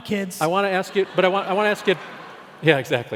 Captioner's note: laughing